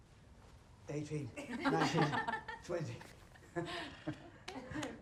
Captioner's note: all laughing